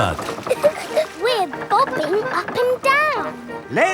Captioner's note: chuckles